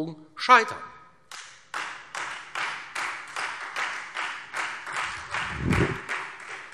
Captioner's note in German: Beifall Freie Demokraten